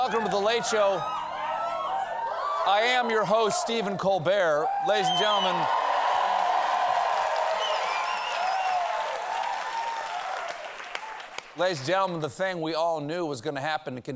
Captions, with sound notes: WELCOME TO "THE LATE SHOW." I AM YOUR HOST, STEPHEN COLBERT. LADIES AND GENTLEMEN-- ( CHEERS AND APPLAUSE ) LADIES AND GENTLEMEN, THE THING WE ALL KNEW WAS GOING TO HAPPEN